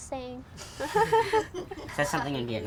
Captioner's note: laughing